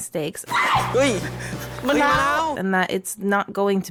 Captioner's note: woman falling screams